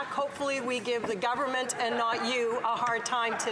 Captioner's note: some Applause